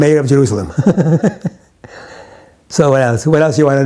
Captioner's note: chuckles